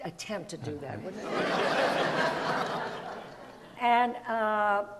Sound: audience laughs

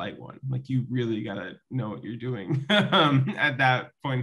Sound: laughs

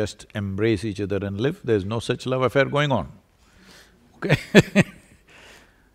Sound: laughs

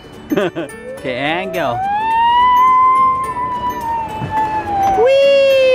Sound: screaming and laughing; squealing

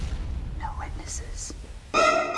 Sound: whispering; horror music

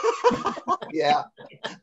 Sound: laughter

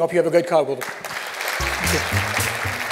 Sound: applause

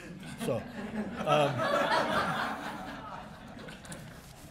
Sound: laughter

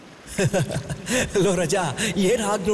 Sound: laugh

